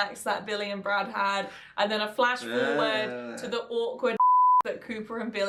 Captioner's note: beep